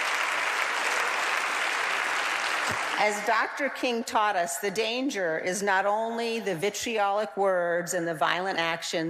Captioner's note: applause